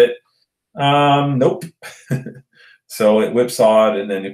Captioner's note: laughs